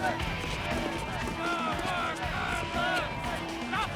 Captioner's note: fans shouting